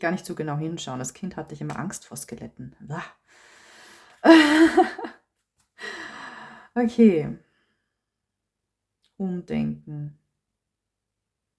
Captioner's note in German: gelächter